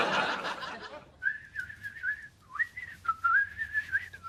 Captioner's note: whistles